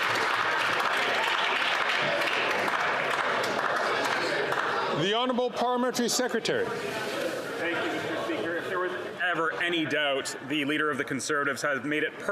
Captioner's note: some Applause